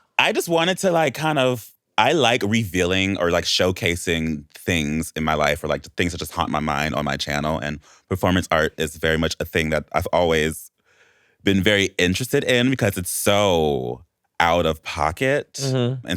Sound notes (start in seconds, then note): none